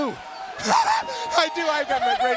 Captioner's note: laughs